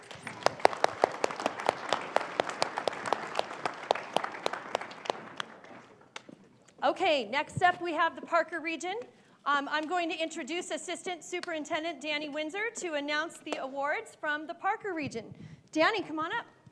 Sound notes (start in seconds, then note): 6.0 applause